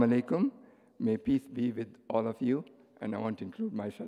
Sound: foreign language spoken

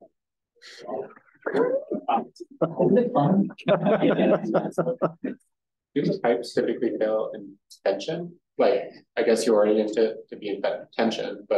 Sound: audience chatter and laughing

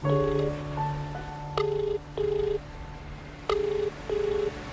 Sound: phone ringing

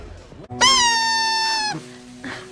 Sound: Dennis blowing a party noisemaker

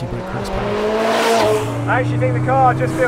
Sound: car engine roars

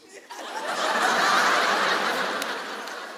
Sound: laughter

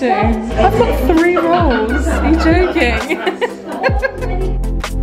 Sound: laughing; gentle upbeat music

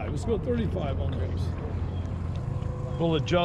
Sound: boat engine idling

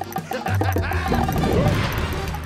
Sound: laughing

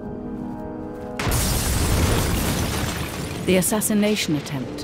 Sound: explosion roars

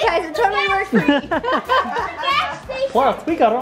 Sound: laugh

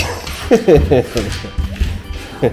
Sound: laughs

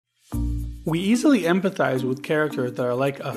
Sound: voiceover

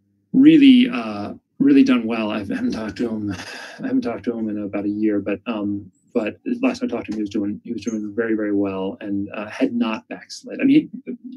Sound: sighs

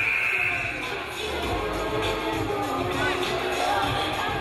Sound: game buzzer buzzes

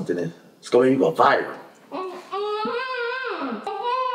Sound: Alli groaning

